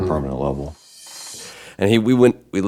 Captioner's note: ringing